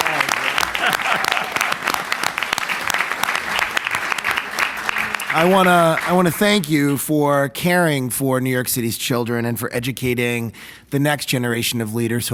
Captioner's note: applause